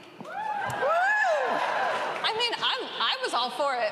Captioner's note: cheering